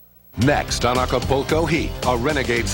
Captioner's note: voiceover